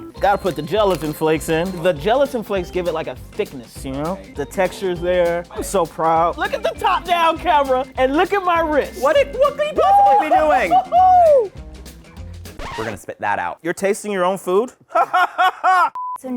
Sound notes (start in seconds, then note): 12.5 record scratch; 14.8 laughs